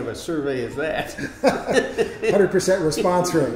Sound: laughing

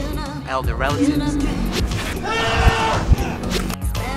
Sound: screaming

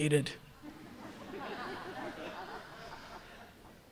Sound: laughter

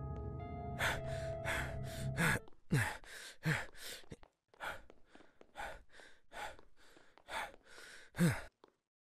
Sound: panting

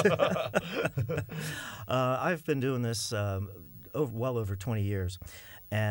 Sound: laughter

